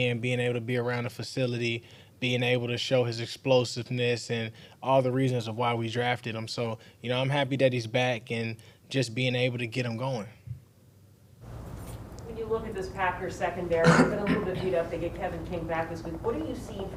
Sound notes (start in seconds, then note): 13.8 man coughs